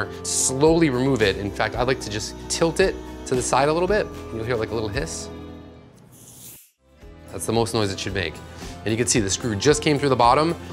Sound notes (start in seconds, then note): 6.1 air hisses from bottle